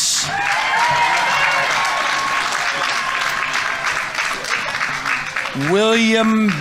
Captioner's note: audience applauding; audience members cheering